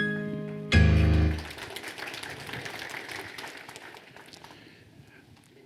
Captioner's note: audience applauding